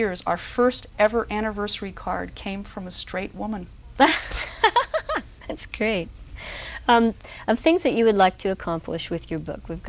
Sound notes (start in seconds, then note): 3.7 roaring laughter